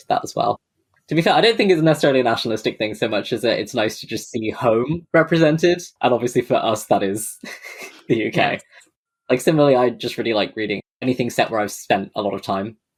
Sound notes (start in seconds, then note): 7.3 laughs